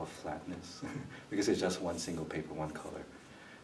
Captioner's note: laughs